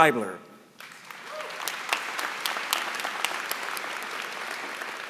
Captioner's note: applause